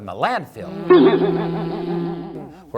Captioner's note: buzzz!